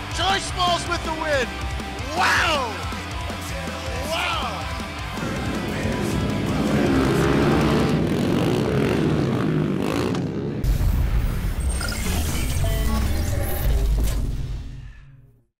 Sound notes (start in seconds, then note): 5.0 motors revving; 10.6 futuristic sound effects